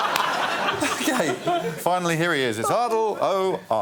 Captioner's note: laughter